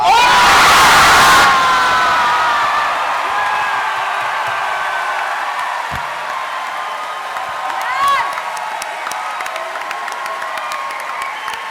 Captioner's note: cheering and chanting "Keyleth"